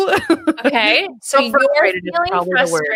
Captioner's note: laughs